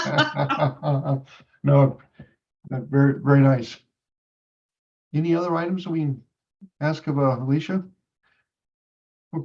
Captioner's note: laughs